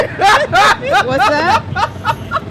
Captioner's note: laughter